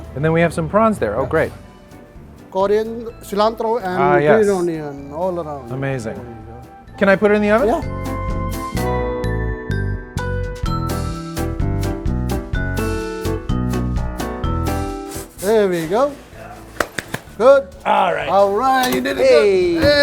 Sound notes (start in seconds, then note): 8.2 jazzy music; 16.8 claps